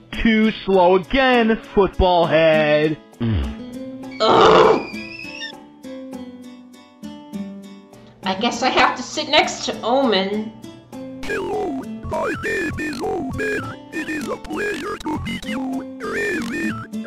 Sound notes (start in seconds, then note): 4.2 raspberry; 4.6 teapot whistling